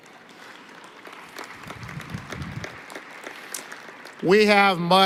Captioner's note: applause